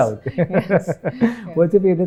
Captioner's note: laughs